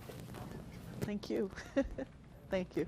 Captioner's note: laughs